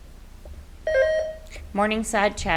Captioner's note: buzzer beeps